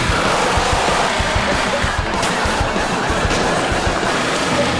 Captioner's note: audience laughing